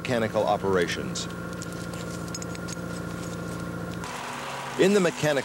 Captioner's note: engine running; chains clanking